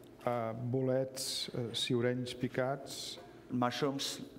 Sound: speaking catalan

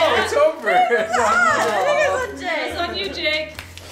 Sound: family chattering

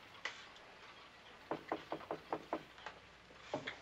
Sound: knocking

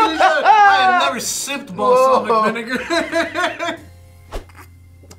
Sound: laughs

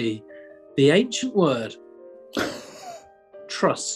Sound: chuckling

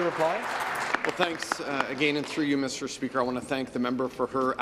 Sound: applause

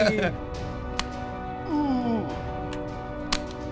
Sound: laughing; moaning

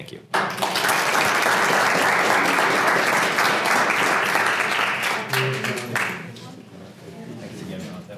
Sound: applause

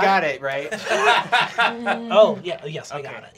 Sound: laughing

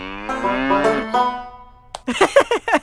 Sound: laughing

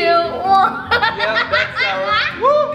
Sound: laughs

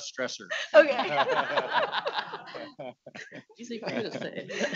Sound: audience laughing

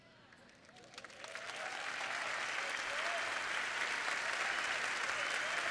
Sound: applause

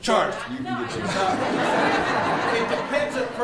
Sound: everyone laughing

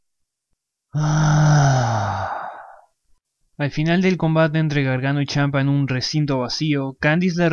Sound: sighs with passion

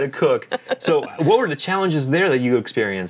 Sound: laughs

